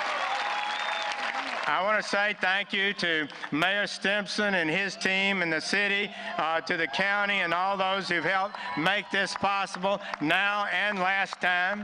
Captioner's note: applause